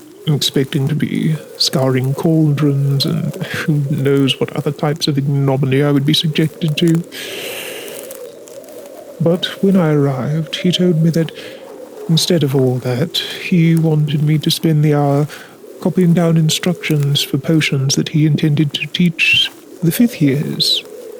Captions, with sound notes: Expecting to be scouring cauldrons and who knows what other types of ignominy I would be subject to. [Deep Breath] But, when I arrived, he told me that Instead of all that, he wanted me to spend the hour Copying down instructions for potions that he intended to teach the fifth years.